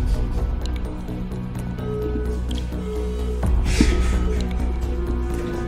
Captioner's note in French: l'appel se déconnecte